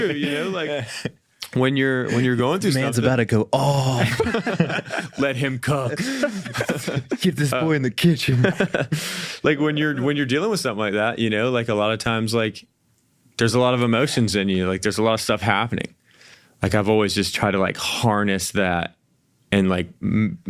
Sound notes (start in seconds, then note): 3.8 all laugh; 8.1 laughs